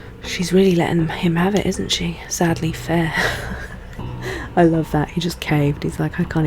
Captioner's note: laughs